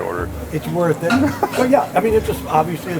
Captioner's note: chuckling